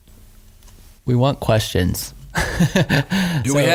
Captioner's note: laughing